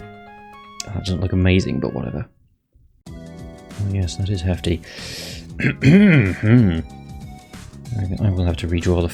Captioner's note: clears throat loudly